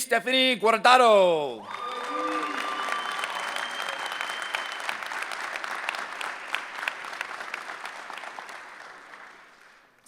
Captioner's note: applause